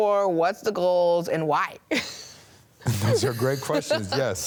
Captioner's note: chuckles